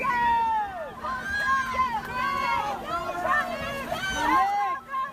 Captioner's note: crowd cheering